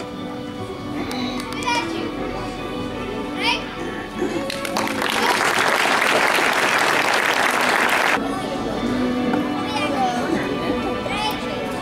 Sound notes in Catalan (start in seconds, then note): 4.4 Aplaudiments